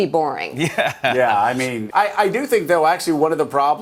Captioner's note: laughing